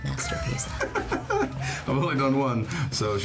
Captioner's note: Channing laughing